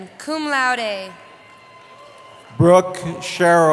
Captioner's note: cheering